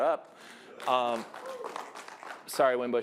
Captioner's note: applause